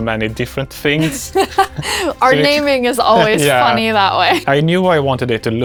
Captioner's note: laughs